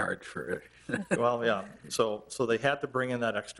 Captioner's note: chuckling